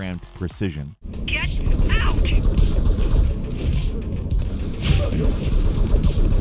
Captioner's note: bullets whirring past